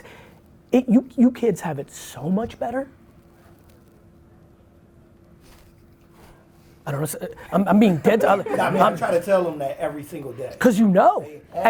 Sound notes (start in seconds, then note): 7.0 laughs